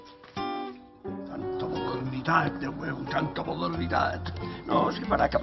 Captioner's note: grumbles